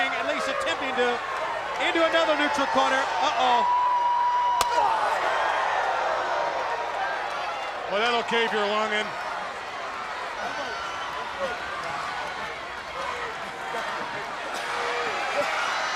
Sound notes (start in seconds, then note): 4.6 chop striking; 5.7 crowd cheering; 10.3 crowd cheering